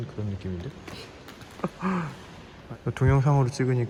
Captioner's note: laughs